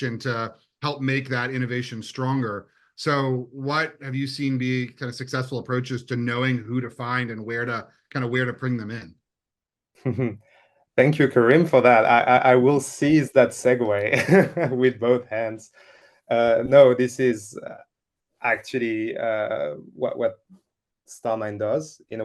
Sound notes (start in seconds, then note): 13.9 chuckles